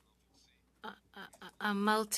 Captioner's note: speaking French